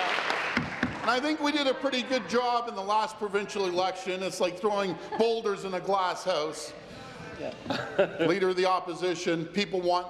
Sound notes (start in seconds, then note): 2.2 applause